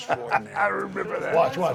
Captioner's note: laugh